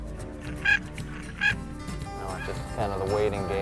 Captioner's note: bird calls